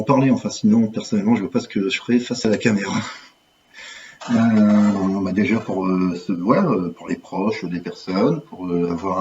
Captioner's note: laughs